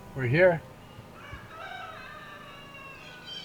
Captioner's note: rooster crows